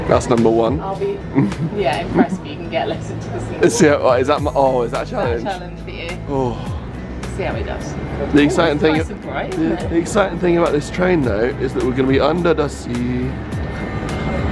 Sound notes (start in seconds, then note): 6.5 groans